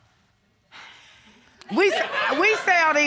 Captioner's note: sighs